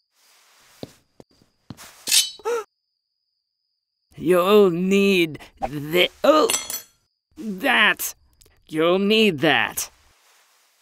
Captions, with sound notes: - You'll need th- oh! (knife clattering) ...that. You'll need that.